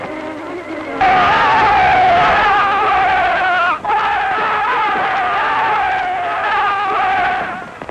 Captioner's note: german war cry